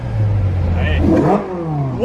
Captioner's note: vrrrRRRROOOOM!